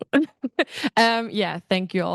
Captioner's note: student laughing